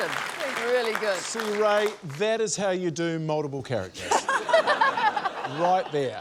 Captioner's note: laughter